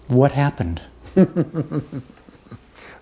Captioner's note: laughter